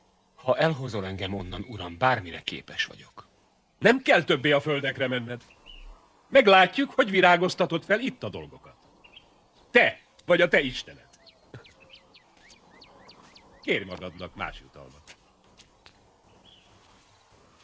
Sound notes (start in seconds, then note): 11.4 chuckles